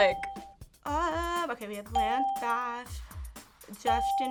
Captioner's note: laughs; ding